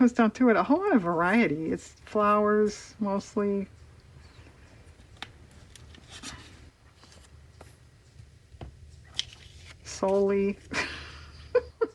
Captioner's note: laughs